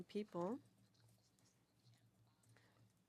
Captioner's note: speaking French